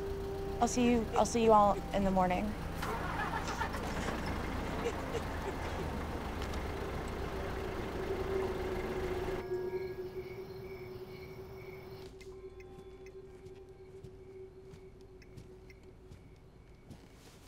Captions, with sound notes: - I'll see you--I'll see you all in the morning. [girl continues sobbing] [insects chirping]